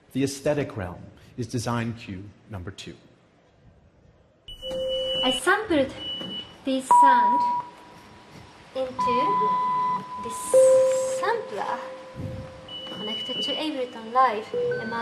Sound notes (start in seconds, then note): 4.4 machine beeping; 10.7 machine beeping